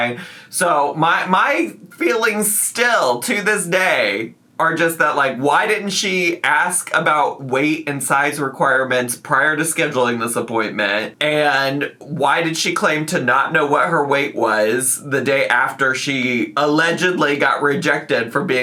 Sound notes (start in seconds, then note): none